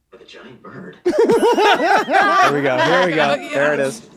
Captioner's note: they laugh